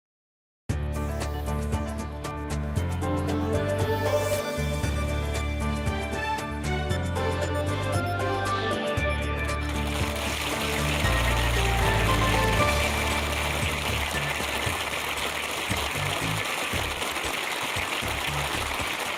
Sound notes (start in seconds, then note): 10.0 applause